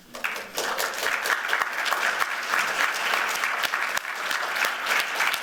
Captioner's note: applause